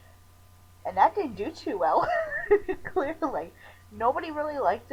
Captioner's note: laughter